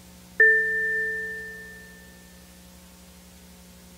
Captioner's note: game chimes